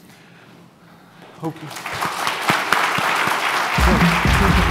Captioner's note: applause